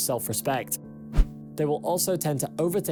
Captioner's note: screen swishes